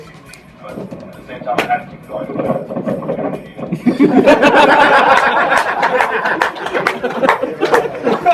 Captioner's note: laughter